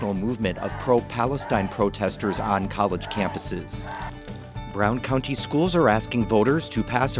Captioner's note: crowd chanting